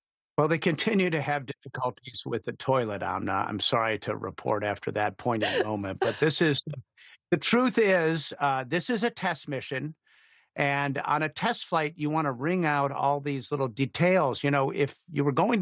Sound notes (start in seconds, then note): 5.3 laughter